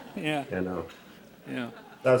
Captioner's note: laughter